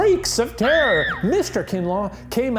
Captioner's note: screaming